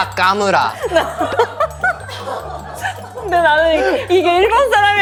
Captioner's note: cracking up